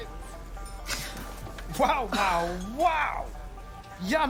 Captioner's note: gasps